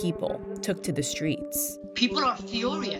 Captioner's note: soundbite of archived recording